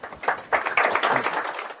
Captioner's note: applause